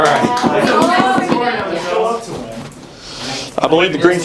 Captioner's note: talking